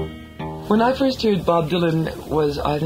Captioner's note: guitar strumming; voiceover